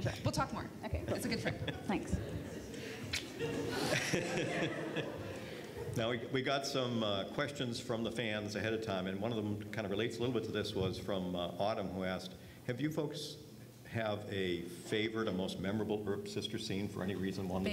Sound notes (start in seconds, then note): 4.0 laughs